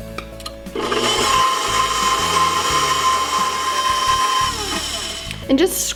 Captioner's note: blender motor humming